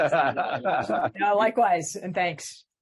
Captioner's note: laughs